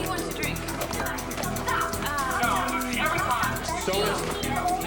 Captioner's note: tv playing sound from "unsolved mysteries" loudly